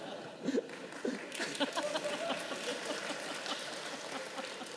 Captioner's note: participants laughing; audience clapping